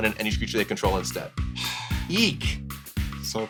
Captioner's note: sighs